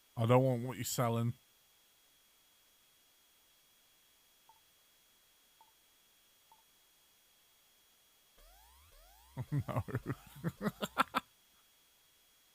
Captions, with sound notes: I don't want what you're sellin'. Oh no! *laughs*